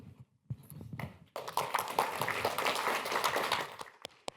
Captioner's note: applause